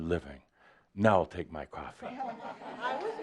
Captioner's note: some chuckles